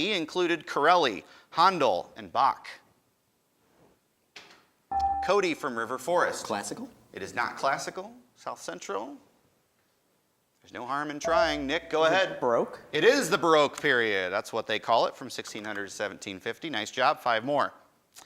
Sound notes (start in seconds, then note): 4.3 buzzer dings; 11.3 buzzer dings